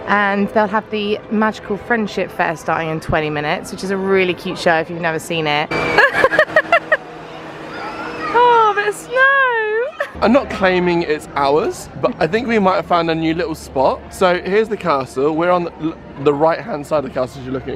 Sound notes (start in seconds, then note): 5.9 laughing